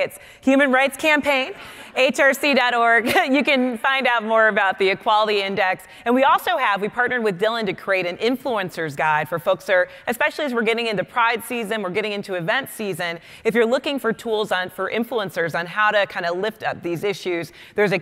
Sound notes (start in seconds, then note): 1.9 audience laughing; 3.1 laughing